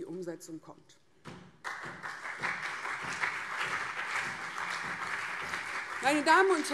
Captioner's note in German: Beifall CDU und SPD